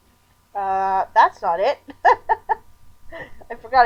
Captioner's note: laughing